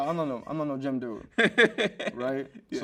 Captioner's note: host laughs